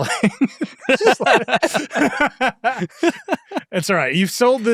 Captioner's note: participants laughing